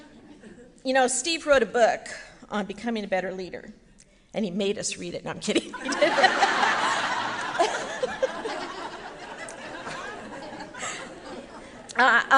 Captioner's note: laughing